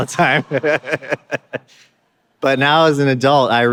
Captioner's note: laughing